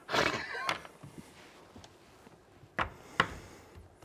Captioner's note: laughing